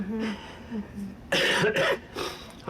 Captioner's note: coughing